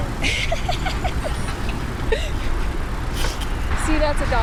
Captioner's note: laughter